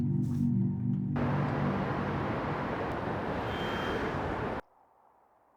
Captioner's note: sounds of the city